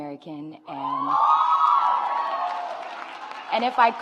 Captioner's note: audience applauds